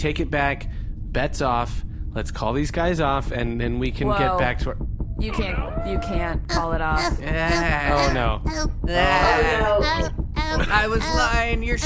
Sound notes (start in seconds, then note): 5.3 thumping sounds start